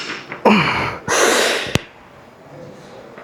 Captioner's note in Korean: 한숨